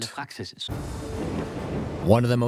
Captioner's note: thunder